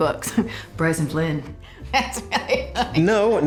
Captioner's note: drucinda laughing